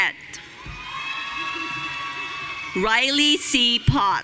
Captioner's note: audience cheering